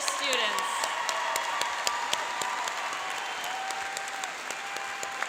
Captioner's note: cheering and applauding